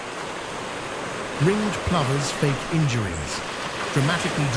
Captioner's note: wind blowing